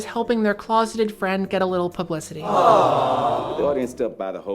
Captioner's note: AWWWWWWWWWW sound effect